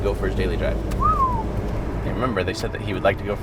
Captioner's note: whistles